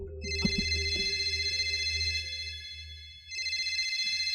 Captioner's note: phone rings